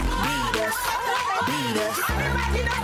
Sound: group shouting

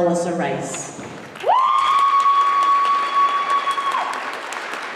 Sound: applause

